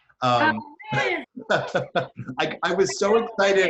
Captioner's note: laughing